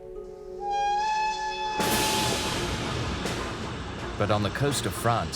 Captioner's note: train whistling